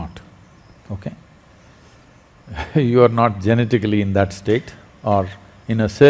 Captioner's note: Sadhguru Laughs